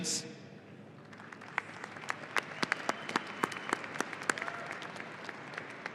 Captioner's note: audience applauding